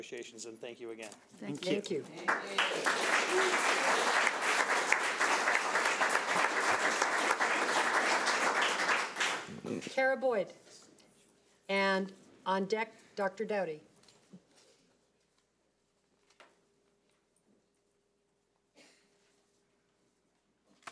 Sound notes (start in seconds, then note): 2.2 audience applauding